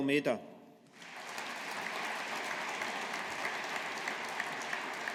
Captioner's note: audience applauding